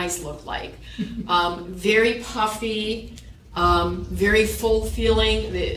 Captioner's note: chuckle